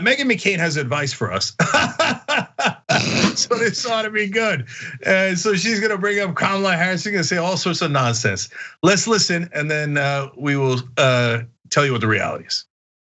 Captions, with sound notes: Meghan McCain has advice for us [LAUGH], so this ought to be good. So she's going to bring up Kamala Harris, she's going to say all sorts of nonsense. Let's listen and then we will tell you what the reality is.